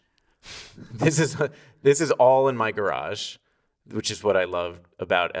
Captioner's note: laughing